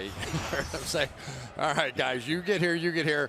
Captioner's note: laughs